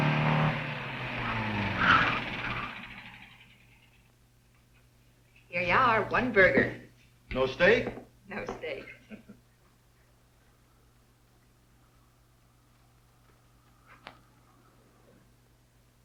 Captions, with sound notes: (tires screeching) - Here you are one burger. - No steak? - No steak.